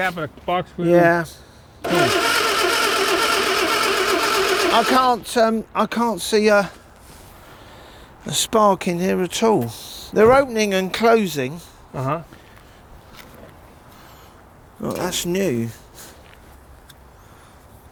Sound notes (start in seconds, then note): 1.8 engine rumbling